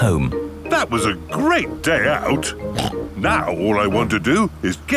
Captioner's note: snorts